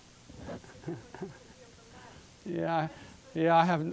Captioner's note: chuckling